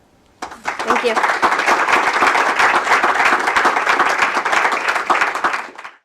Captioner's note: applause